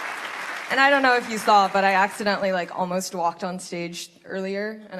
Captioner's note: applause